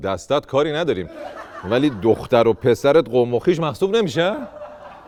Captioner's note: laughter